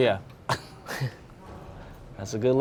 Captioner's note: laughing